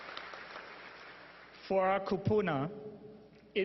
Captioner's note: applause